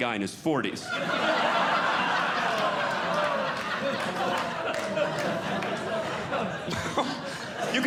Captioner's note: audience Laughing